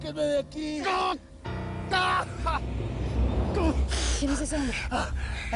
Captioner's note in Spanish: Gritos